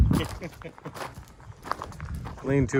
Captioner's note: laughing